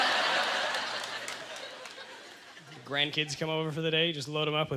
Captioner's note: audience laughter